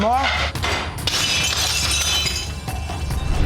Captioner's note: dishes shattering